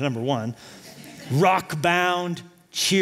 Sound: laughter

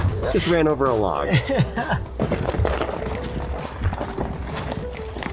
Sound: laughs

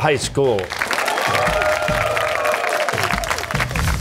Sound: cheers and applause

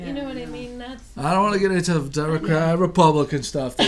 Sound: voiceover

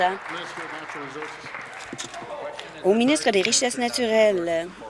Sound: applause

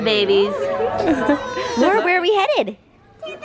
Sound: laughs

